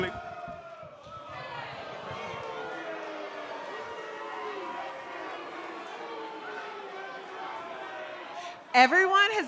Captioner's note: crowd cheering